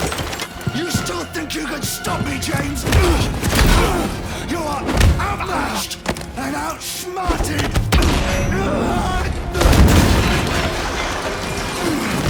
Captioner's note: groaning